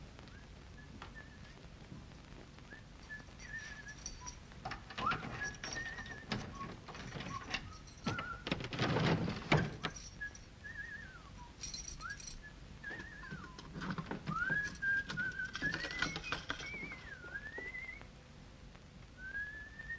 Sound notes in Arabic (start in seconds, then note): 0.3 يصفر; 9.8 يصفر; 15.2 صوت المفاتيح; 17.0 يصفر